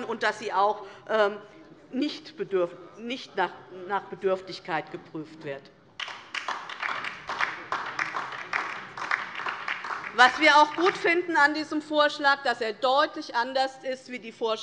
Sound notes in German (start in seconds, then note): 6.0 Beifall DIE LINKE